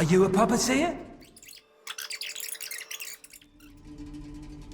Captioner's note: FF whirring; soft, dark music